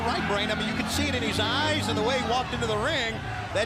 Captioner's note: crowd cheering